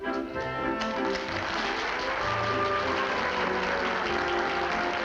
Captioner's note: applause